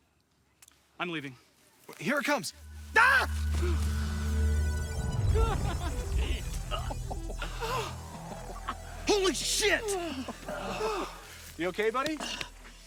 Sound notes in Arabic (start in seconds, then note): 2.9 صراخ; 5.3 ضحكة مكتومة; 5.8 لهث